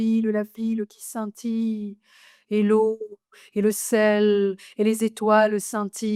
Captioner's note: continues speaking French